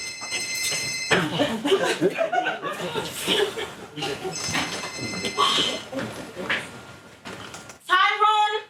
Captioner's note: phone ringing; audience laughing